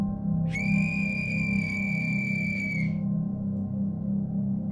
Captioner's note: blows the death whistle